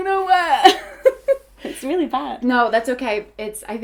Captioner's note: laughing